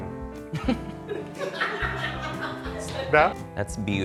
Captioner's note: and crew members chuckle